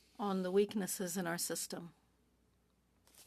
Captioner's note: speaking French